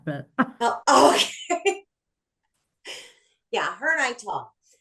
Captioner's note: laughs